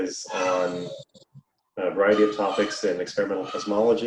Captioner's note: child shouting